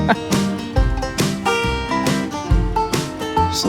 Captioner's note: ha ha